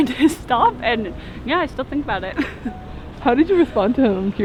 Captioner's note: chuckles